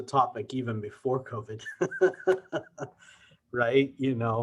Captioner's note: laughs